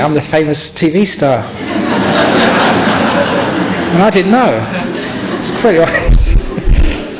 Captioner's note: laughter; laughter